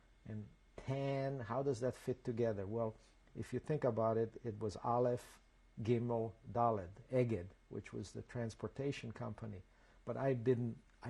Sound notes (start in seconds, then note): 6.1 hebrew